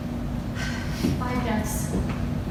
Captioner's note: sighs